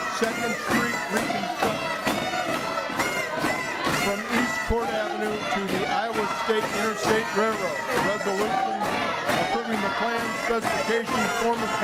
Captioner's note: audience chanting very loudly